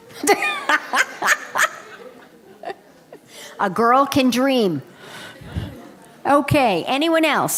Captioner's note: laughter